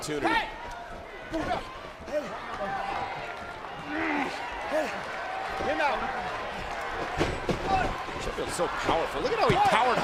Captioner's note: crowd chatter